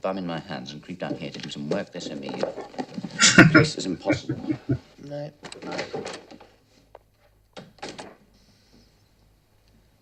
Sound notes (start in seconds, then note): 3.0 laughing